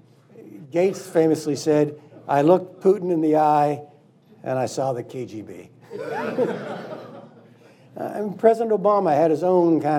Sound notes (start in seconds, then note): 6.0 laughing